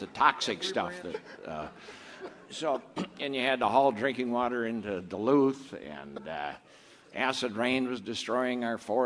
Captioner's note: clears throat